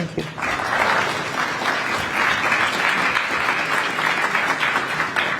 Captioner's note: applause